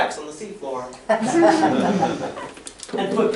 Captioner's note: laughter